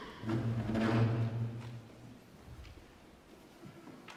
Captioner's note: piano stool shuffles